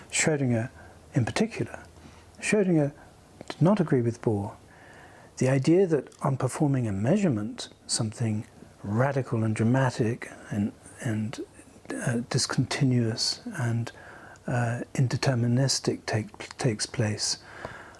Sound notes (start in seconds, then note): none